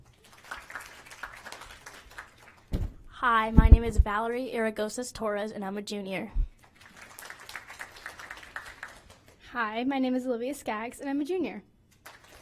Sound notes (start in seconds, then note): 0.0 applause; 4.8 applause; 11.9 applause